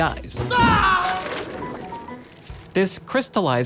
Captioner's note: shouts